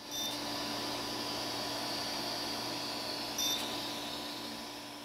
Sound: machine buzzes and whirrs

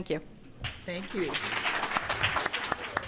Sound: applause

